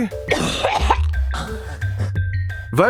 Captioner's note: retching